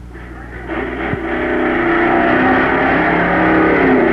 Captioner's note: engines roaring